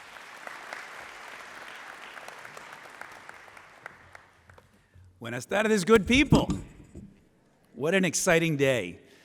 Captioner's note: applause; speaking spanish